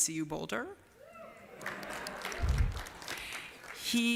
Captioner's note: applause